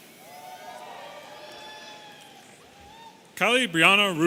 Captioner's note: audience cheering